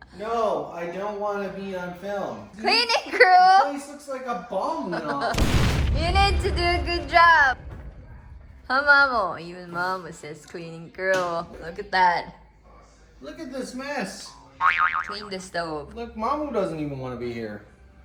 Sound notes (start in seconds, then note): 5.3 explosion noise; 14.6 boing